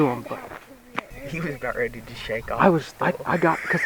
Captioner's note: laughter